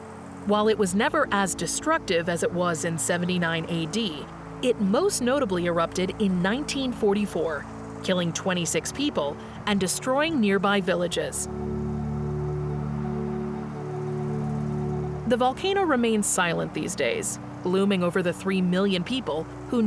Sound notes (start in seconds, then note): 11.5 wind whooshing; 12.0 gentle music continues